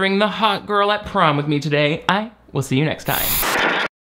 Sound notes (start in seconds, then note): 3.0 static hissing